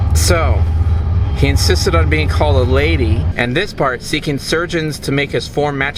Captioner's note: train noises